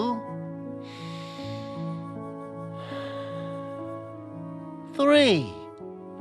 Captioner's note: breathes deeply